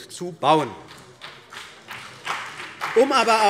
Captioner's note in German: Beifall CDU und BÜNDNIS 90/DIE GRÜNEN